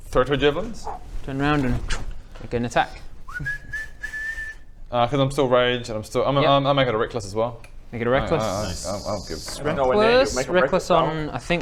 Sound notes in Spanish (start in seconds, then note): 3.2 silbidos demasiado confiados